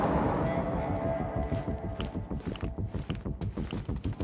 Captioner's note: Shoes clicking